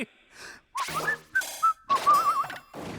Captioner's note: exits while whistling